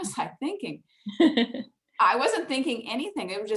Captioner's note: laughs